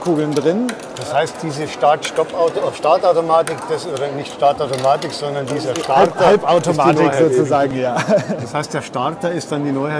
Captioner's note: laughs